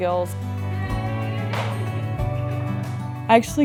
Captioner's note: hands thwacking